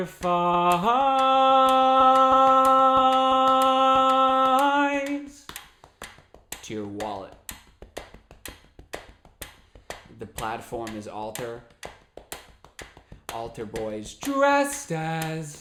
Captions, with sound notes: to your wallet. (tapping and ticking sound) The platform is alter, alter boys dressed as beggars,